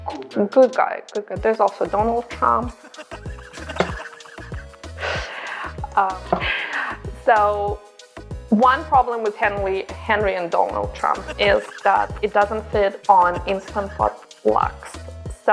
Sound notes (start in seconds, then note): 2.6 laughing